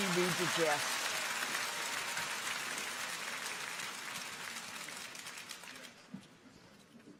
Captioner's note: audience applauds; clappers clacking